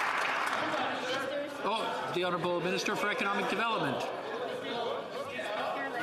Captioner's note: some Applause